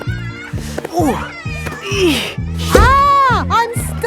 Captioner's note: grunting